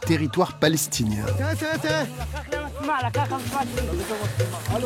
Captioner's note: Arabic spoken audio